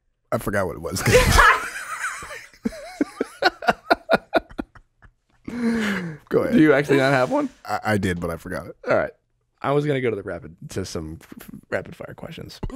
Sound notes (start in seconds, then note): 1.0 everyone laughing